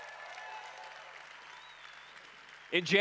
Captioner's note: applause/Cheering